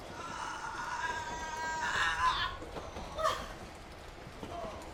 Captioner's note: woman groans